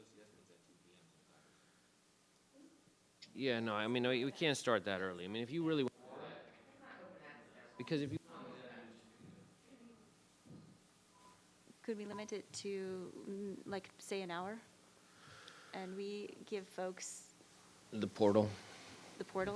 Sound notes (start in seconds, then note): 6.3 group chattering